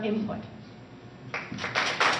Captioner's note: applause